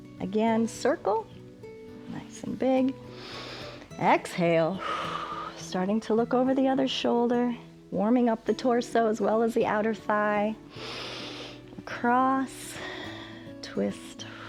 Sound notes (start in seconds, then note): 3.1 inhales; 3.1 exhales; 10.7 inhales